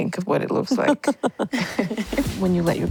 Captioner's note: laughter